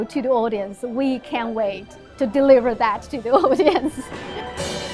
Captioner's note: chuckles; lively music